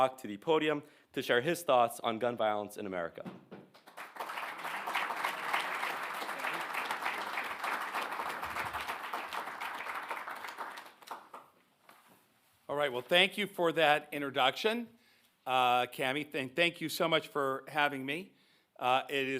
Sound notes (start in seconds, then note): 3.7 audience applauding